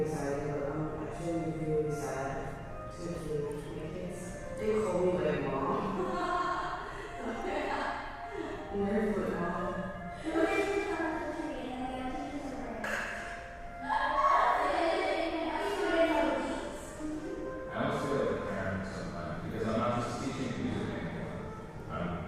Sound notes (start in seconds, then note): 5.8 laughs; 12.8 claps; 13.7 laughter